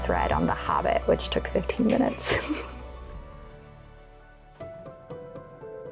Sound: giggles; sentimental music

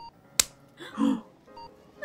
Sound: gasp!

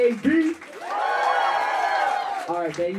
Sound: crowd cheering

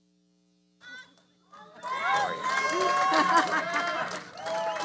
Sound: audience cheering

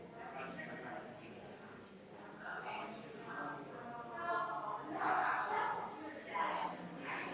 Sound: people chattering distantly continues

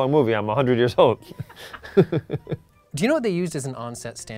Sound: Ben laughs

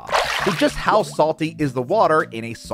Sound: water splashing

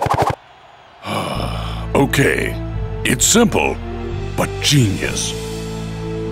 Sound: groans

